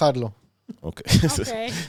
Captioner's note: laugh